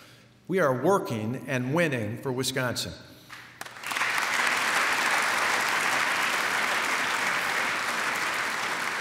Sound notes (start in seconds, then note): 3.3 applause